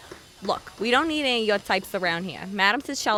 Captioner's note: mutters